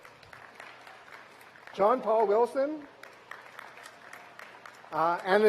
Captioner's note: applause